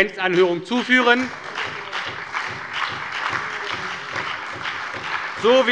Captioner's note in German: Beifall bei der SPD, der LINKEN und der FDP